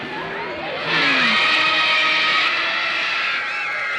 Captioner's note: kids screaming